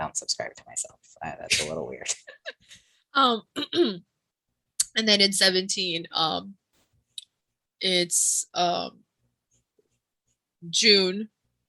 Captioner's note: exasperated